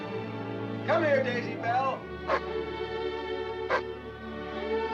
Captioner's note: gentle music; dog barking; gentle music